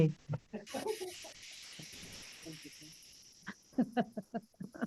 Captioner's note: group laughing